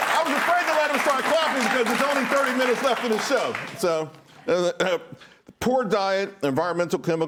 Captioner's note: applause